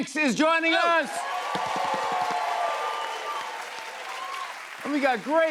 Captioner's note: cheers and applause